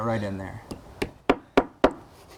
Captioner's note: hammering